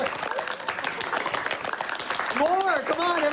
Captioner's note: applause